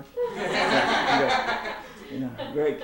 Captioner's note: laughter